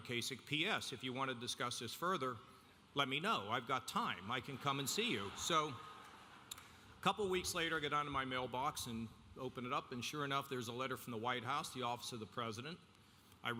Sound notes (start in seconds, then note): 5.8 audience laughing